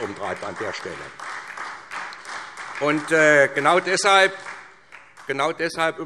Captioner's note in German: Beifall SPD und vereinzelt Freie Demokraten